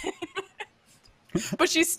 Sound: laughing

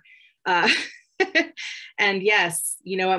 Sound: chuckles

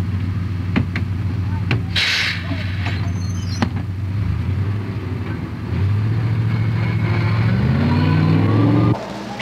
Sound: school bus door closes and departs

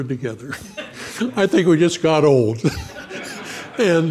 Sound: audience laughing

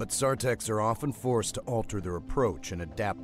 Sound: voiceover

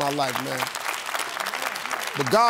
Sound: applause

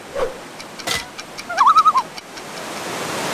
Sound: loon call

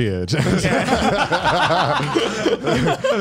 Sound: laughs

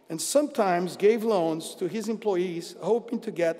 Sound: none

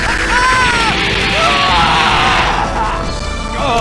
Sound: more defiant laughter; screams

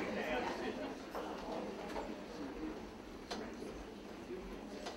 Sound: people chattering

